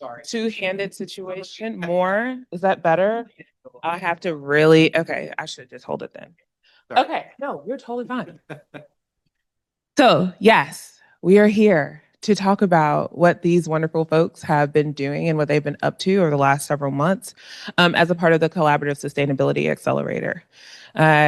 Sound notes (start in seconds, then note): 8.3 laughs